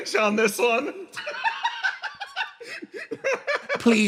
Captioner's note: laugh